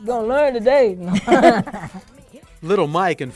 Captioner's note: laughing